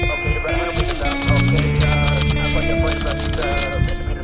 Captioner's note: somber music; typewriter clicking